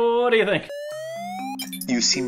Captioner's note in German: aufsteigender ton